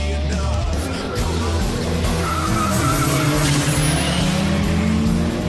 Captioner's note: rock music; tires screeching